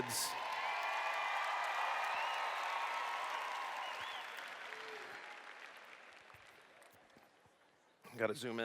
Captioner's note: cheers